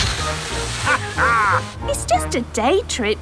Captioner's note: captain dog laughs